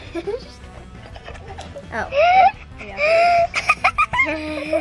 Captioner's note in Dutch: gelach